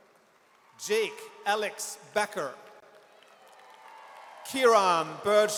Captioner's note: audience cheers